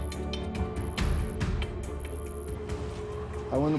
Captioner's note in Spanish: Sonido del radar